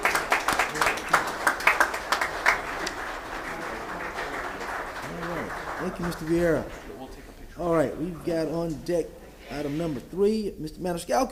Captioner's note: applause